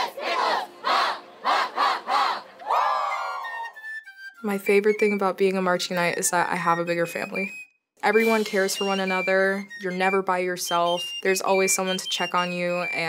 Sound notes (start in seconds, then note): 0.0 chanting; 2.6 cheering